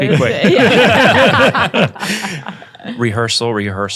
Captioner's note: panel laughing